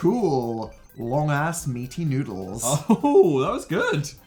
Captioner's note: laughs